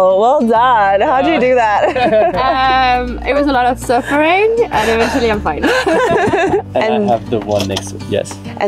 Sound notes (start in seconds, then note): 5.6 all laughing